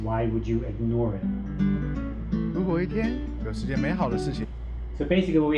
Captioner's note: speaking Chinese